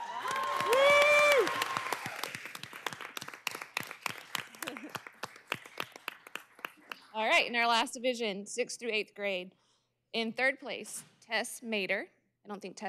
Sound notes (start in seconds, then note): 3.5 cheers and applause